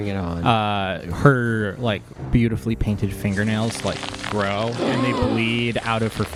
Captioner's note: everyone gasps